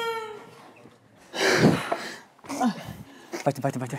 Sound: the music cuts off; sigh

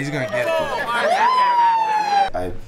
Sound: siren

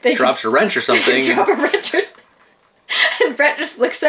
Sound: laughs

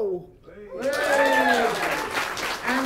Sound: applause

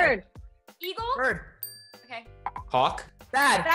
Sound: bell dings

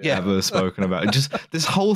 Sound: laughs

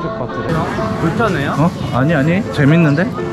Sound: crowded market

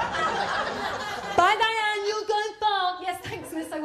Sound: laughter; mutters

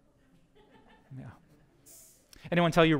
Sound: audience: Laughter

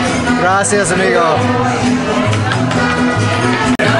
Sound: speaking in foreign language; enchanted band music

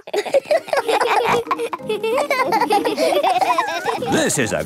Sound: snorting and laughter; laughter

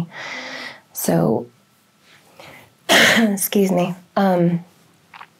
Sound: coughs

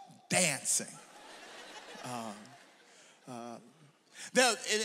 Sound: audience laughs

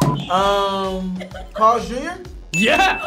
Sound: bomb exploding; imitating crying; bell dings

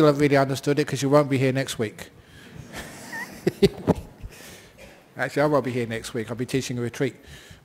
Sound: chuckles

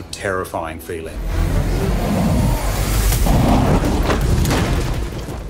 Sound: fire whooshing

